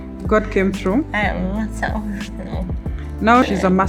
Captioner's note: speaking English